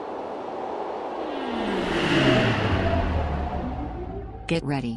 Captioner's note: aircraft whirring